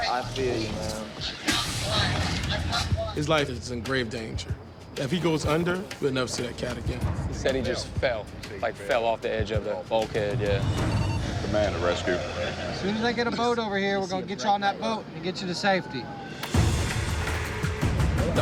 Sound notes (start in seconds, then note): 10.6 radio chirps; 16.4 dramatic music playing